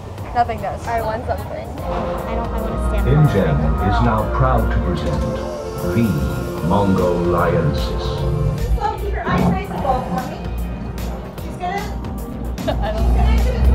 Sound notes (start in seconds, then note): 8.6 murmurs